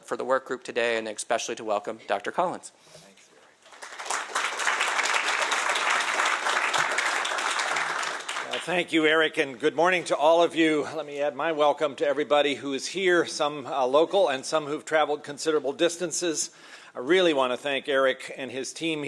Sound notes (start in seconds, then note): 6.3 applause